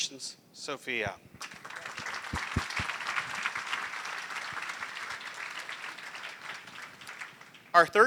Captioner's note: applause